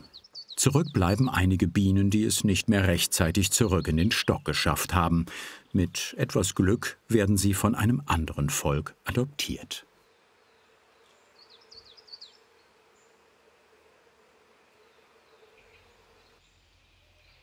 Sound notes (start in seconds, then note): 10.1 humming, birds chirping